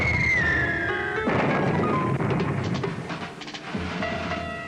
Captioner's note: bombs whistling; heavy artillery booming; bombs blasting; erratic suspenseful music